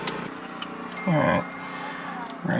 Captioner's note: notification ding